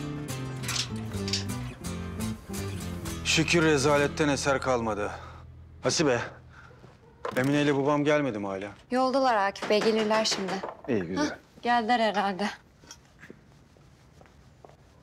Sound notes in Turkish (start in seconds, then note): 9.6 Kapı Çalıyor